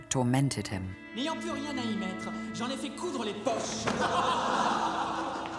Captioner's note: man shouting in French; men laughing